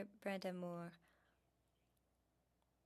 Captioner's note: speaking French